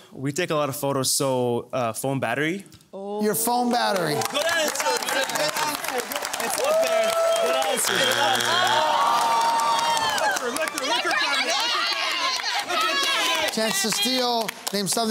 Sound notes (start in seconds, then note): 7.4 buzzer sounds; 10.5 family clamouring